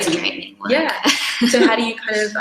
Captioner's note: laughs